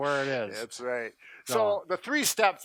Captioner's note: laughs